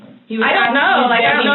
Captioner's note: shouting